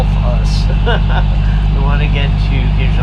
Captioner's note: laughs